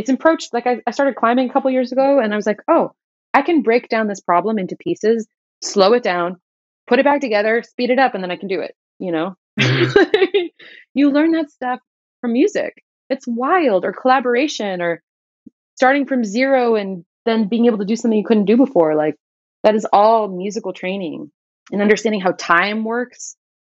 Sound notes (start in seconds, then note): 9.6 laughter